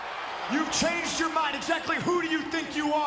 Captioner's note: crowd cheering